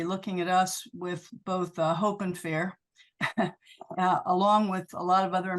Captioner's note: chuckles